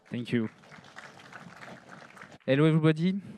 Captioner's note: applause